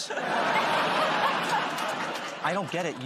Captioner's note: laughter